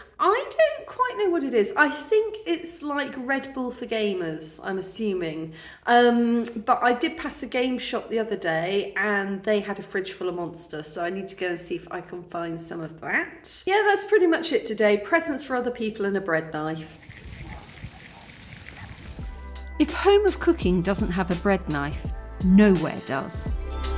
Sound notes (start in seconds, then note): 16.8 fountain